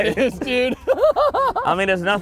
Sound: laughter

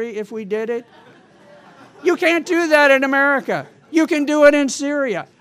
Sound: laughter

